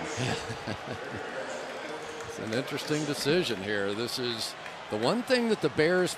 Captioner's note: laughs